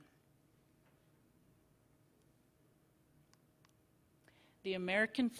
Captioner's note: silence